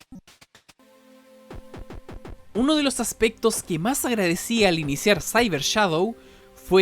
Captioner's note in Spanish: distintos idiomas